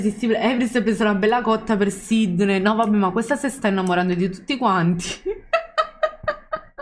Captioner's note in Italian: Risate